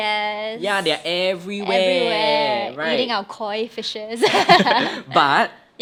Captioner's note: both laugh